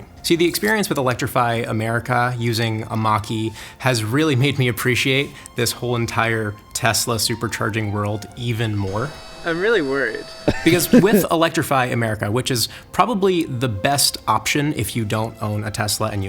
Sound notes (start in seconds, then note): 10.4 laughs